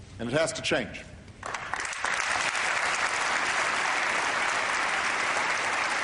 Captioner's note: applause